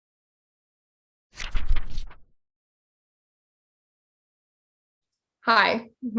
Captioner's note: fluttering Pages